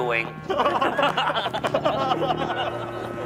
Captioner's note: roaring with laughter